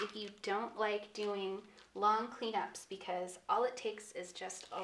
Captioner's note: none